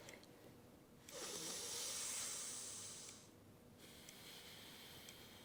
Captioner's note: Annie inhales and exhales